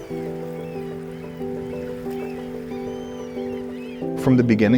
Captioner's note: gulls squawking and waves crashing on the beach